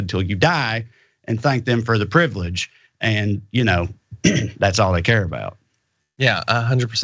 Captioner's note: cough